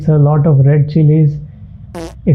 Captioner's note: fart sound